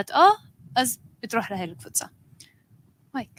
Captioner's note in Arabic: لغة أجنبية; لغة أجنبية